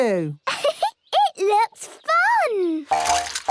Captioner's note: giggles